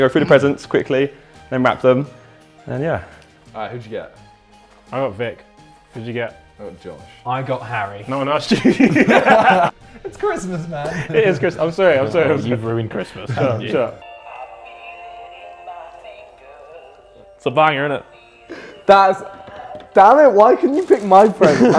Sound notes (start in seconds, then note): 8.5 Simon and Tobi laughing; 8.5 laughs